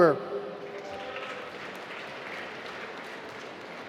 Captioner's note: applause